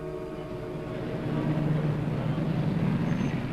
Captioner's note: car engine rumbling; tires screech